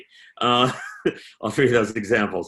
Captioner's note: laughing